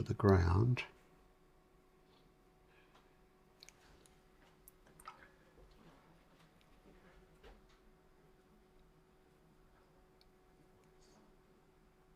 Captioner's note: silence